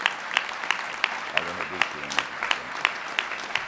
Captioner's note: applause